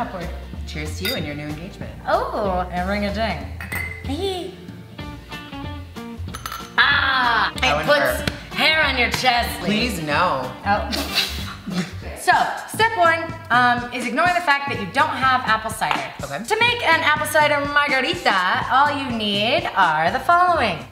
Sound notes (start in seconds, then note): 3.7 metal clinks; 11.5 guffaws